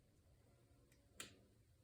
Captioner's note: very quiet snap